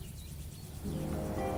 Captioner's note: birds chirping